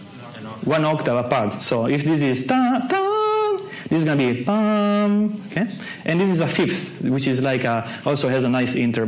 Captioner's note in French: imite le son